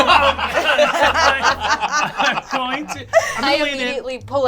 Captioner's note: all laugh